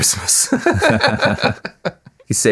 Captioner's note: laughing